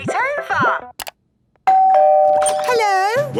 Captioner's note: doorbell ringing